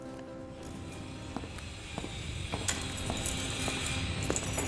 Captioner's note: uplifting music; whirring